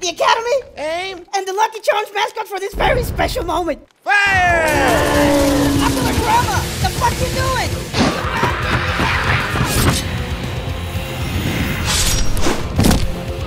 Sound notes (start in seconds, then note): 5.2 pew pew; 11.8 slash